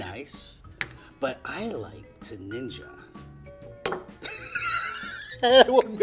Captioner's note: laughing